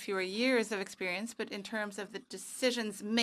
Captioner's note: speaking French